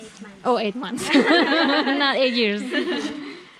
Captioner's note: laughing